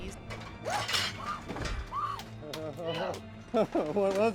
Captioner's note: screams